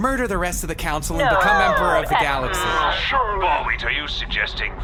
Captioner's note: the Council of Syxx cry out in alarm